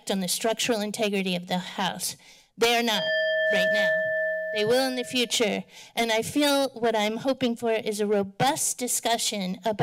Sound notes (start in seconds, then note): 2.8 bell dings